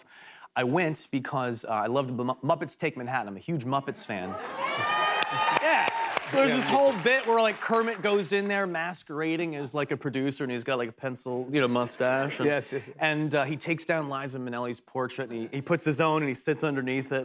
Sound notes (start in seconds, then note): 4.2 cheers and applause